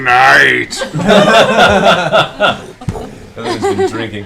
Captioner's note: laughter